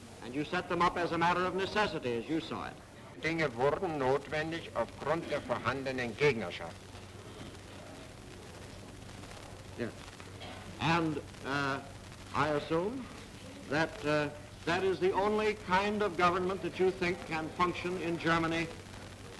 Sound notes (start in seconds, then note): 3.1 in German